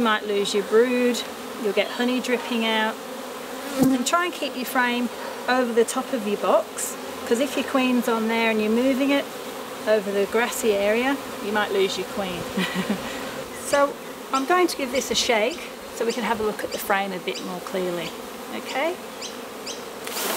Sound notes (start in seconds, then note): 12.4 chuckles